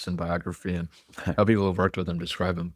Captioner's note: laughs